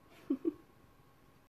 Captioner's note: laughs